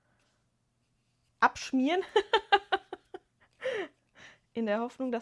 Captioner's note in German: gelächter